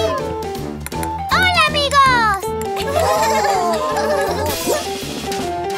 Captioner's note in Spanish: Risas